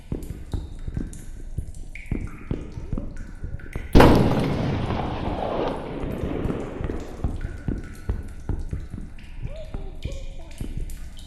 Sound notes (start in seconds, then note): 0.1 footsteps; 3.9 gunshot